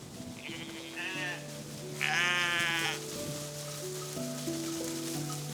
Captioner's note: bowl rattling; sheep bleating; serene music